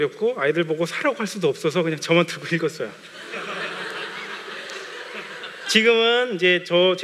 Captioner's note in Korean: 웃음